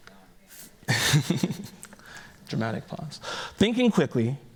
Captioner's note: chuckles